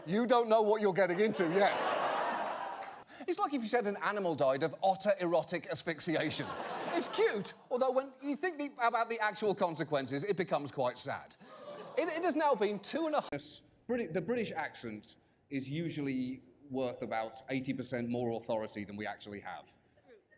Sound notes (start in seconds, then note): 0.9 audience laughter; 11.5 audience aw's